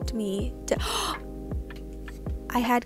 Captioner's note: gasp